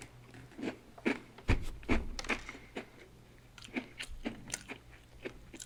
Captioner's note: crunch, crunch